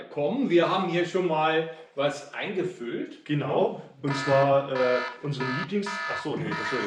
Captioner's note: alarm signal